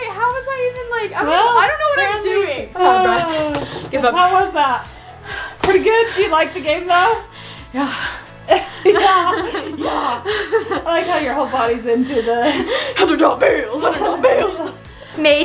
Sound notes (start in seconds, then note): 3.2 sighs; 7.7 laughs; 8.1 pants